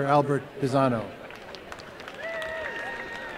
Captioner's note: applause